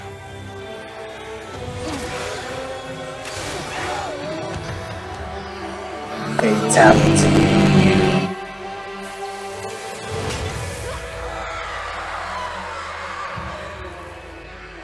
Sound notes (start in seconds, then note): 3.3 screaming; 14.5 screaming